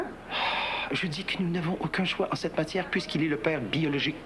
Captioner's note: Soupir